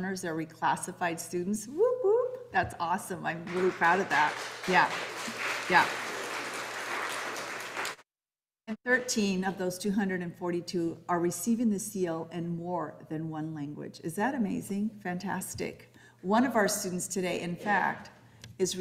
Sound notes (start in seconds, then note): 5.7 audience applauding